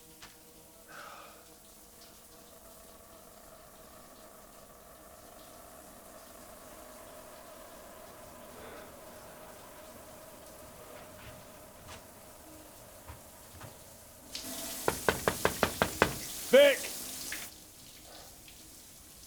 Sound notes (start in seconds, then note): 14.8 knocks on door